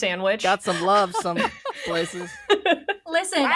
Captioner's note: they laugh